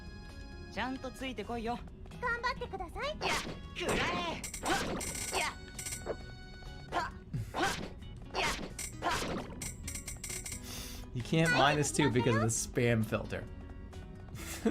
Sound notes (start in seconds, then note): 7.3 exhales; 14.4 bursts out laughing